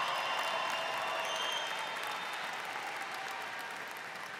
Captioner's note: audience cheers